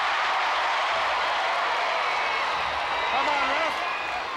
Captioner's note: crowd cheers